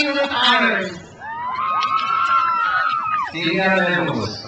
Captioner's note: crowd cheers